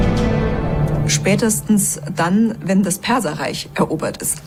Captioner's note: in German